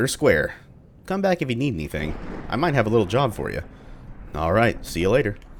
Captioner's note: thunder